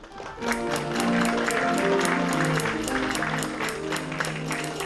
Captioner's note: applause